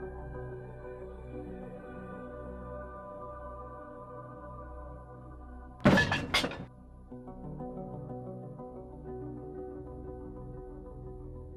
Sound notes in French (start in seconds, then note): 5.8 la bouteille claque